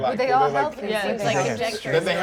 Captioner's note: overlapping chattering